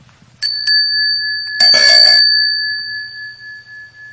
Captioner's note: bells chiming